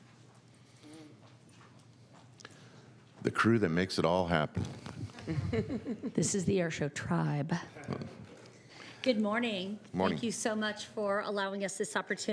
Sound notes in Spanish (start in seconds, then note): 7.8 risas